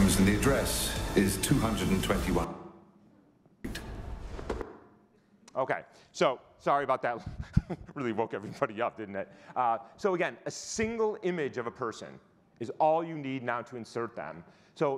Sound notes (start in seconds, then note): 7.2 chuckles